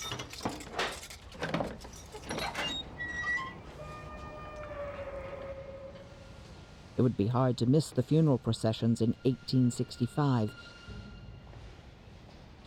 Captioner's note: door creaking